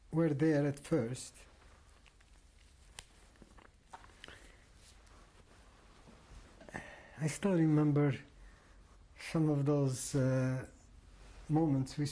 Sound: pauses for 6 seconds

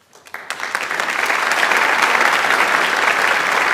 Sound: audience applauds

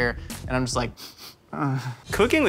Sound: sniffing

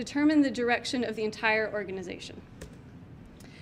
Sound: clicks mouse button

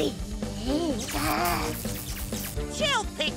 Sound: electricity crackles

